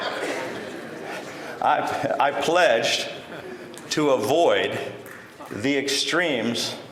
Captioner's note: laughter